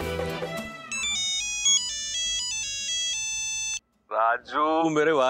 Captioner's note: phone ringing